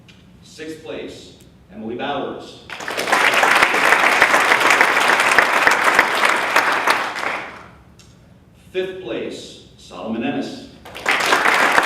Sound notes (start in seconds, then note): 2.7 applause